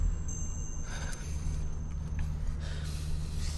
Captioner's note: sighs